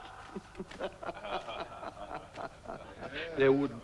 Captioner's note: men chuckling